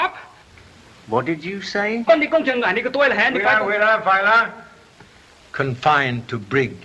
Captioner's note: Charlie and Lee speak in Chinese